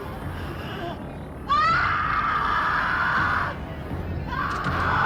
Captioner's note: screaming